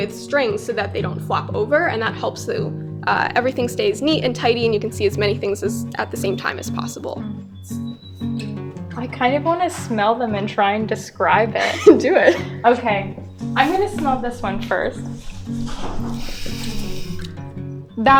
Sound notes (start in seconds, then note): 11.5 giggles; 13.1 sniffing